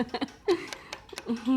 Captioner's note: laughs